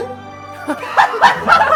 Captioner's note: croak